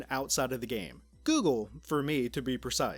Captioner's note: high pitch annoying tone crack or smth